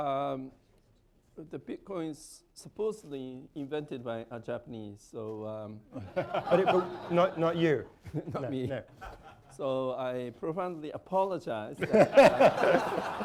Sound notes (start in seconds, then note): 5.9 laughter; 11.8 laughter